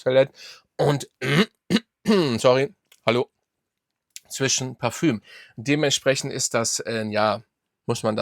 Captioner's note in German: husten; räuspern